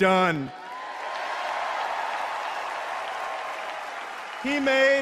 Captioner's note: cheers and applause